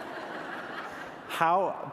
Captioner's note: laughter